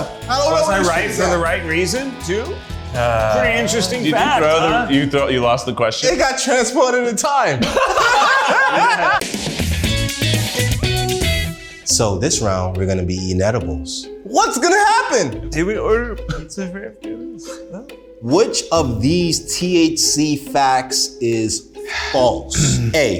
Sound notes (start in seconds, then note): 7.6 all laughing; 7.6 upbeat music